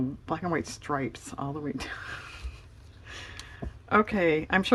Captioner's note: laughs